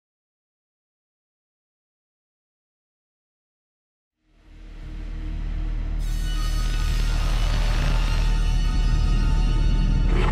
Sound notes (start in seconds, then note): 4.0 Static